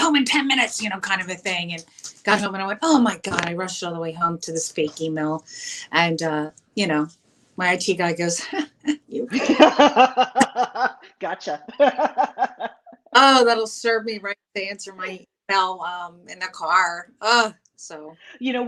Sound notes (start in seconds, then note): 9.1 laughs; 9.3 chuckles